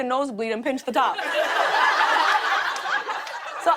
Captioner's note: laughter